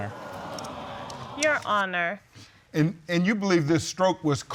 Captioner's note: audience exclaiming